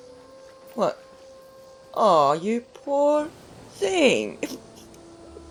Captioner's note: chuckles